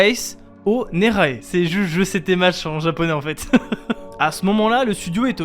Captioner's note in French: Rire